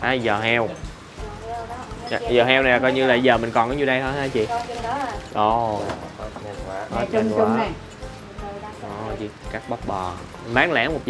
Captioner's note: talking in dielect